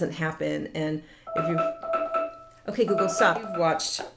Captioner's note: beep